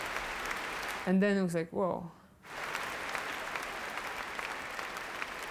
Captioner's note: applause